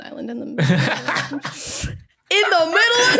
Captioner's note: cackles